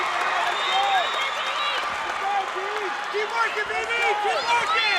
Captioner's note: crowd cheering